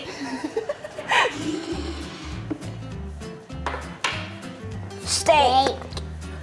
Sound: woman giggling; metal clanking; scraping

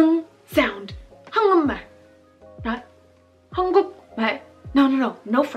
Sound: speaking Korean

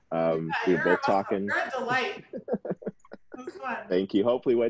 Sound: chuckling

